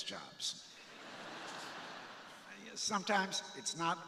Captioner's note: crowd laughing